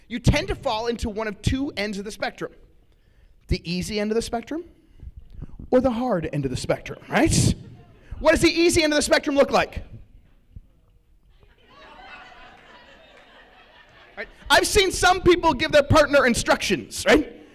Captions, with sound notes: You tend to fall into one of two ends of the spectrum, the easy end of the spectrum or the hard end of the spectrum. What does the easy end of the spectrum look like? [LAUGHTER] I've seen some people give their partner instructions.